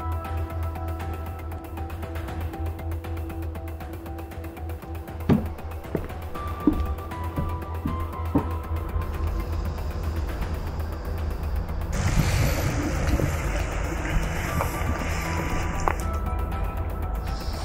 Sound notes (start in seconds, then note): 2.5 mysterious music; 11.9 traffic humming